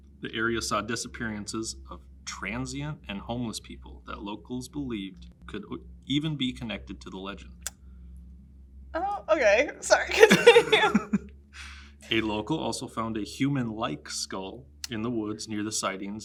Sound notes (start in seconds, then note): 9.8 laughs